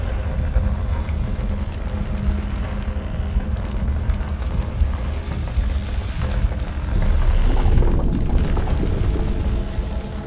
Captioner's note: hearbeat